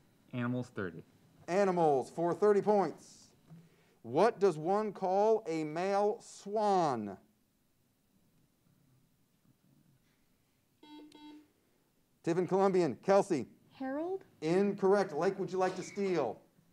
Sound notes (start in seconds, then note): 10.8 buzzer sounds